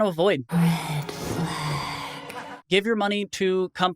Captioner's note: voiceover